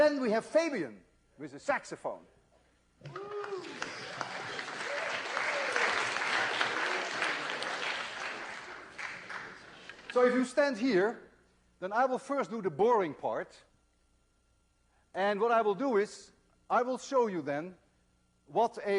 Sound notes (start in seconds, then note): 3.0 applause